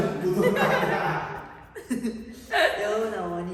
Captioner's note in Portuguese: risos